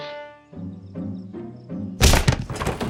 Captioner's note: smack; doors flapping